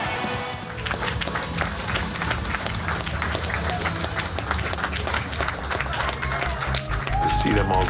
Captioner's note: applause